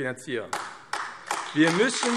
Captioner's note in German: Beifall AfD